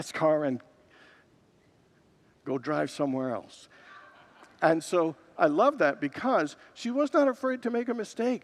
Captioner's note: congregants laugh